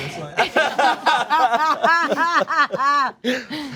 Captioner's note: cast laughs